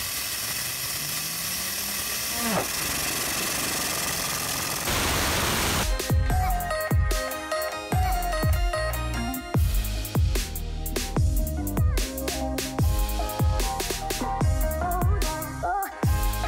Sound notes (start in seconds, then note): 1.9 wheel emits low whine; 6.0 techno music